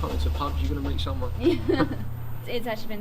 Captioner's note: laughs